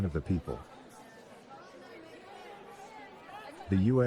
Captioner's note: legislators chattering